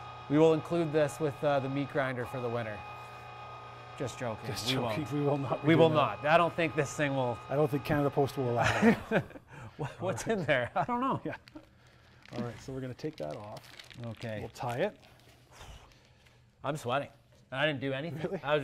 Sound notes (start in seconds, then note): 8.6 laughs